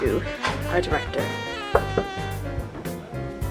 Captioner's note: knock, knock